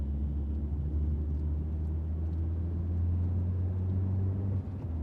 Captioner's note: engine rumbling